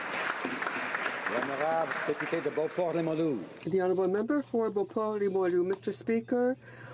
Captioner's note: some Applause